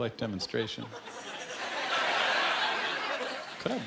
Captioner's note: laughter